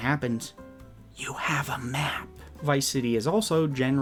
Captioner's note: whispered